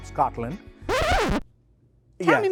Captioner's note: record scratching